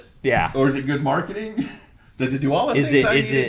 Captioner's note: laughs